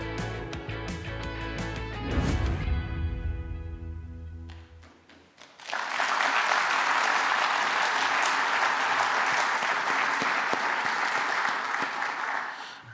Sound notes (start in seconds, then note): 4.7 applause